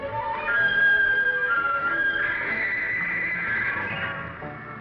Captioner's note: high-pitched call